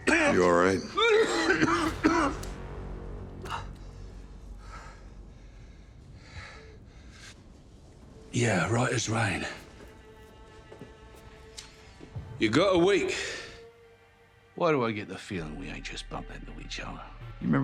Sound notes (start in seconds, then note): 1.0 Butcher coughing; 3.8 Butcher panting; 10.8 suspenseful music